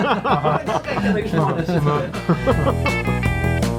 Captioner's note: background chatter